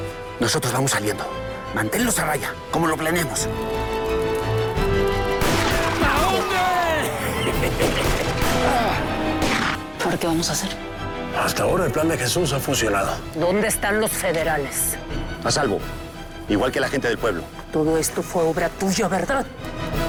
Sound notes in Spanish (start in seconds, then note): 5.4 Disparos; 6.0 Gamboa exclama